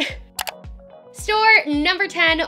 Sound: click

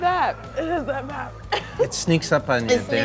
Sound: laughing

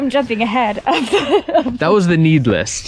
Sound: laughs

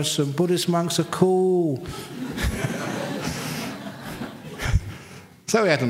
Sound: laughter

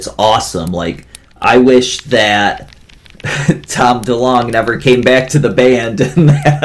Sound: laughs

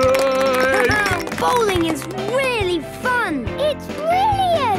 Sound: clapping, laughing

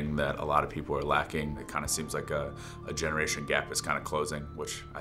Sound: none

